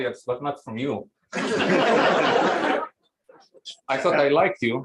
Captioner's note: laughter